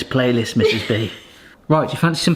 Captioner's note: chuckles